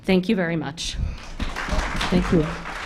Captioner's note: applause